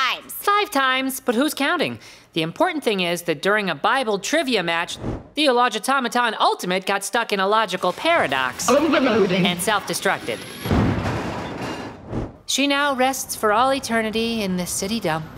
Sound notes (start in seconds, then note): none